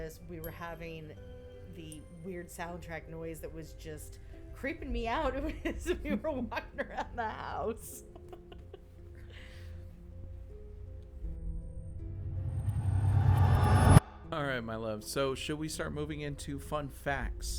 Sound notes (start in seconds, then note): 9.9 laughs